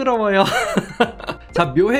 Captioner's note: laughing